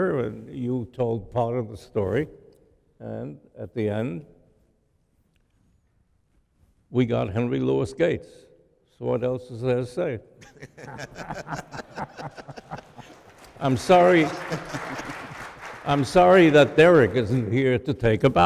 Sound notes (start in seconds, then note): 10.4 chuckling; 14.3 applause